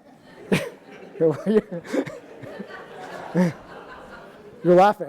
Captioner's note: audience laughing